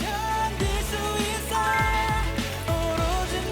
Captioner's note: slurp